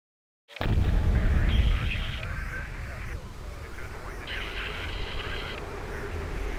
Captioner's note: uncomfortable music; radio chattering